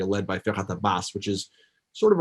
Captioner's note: foreign language